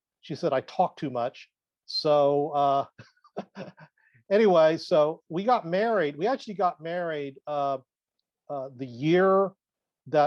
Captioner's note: chuckles